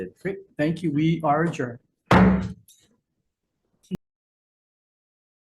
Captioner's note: gavel thudding